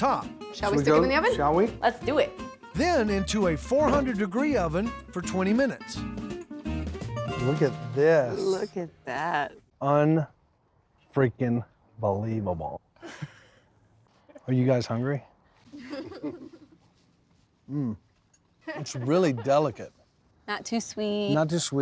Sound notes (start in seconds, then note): 15.8 chuckling